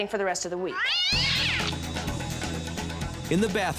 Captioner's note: cat meowing